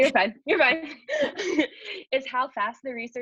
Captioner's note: laughs